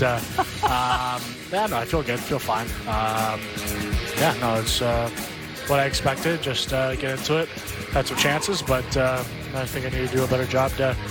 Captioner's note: laughter